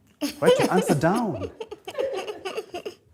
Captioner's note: chuckles